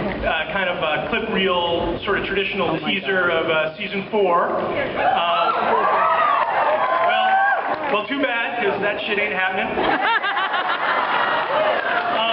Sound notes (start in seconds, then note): 5.0 cheers; 9.8 laughs